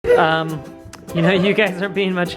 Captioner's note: bright music; laughing